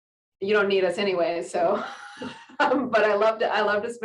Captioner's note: giggles